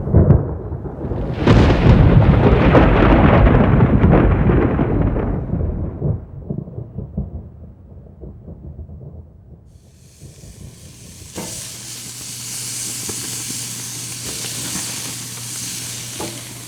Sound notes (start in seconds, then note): 0.0 loud crack of thunder; 8.2 sizzling gas grill